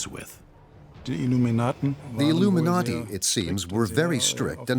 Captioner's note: speaking in German